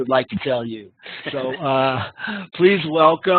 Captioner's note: laughing